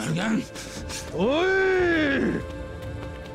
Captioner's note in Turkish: Bamsı bağırıyor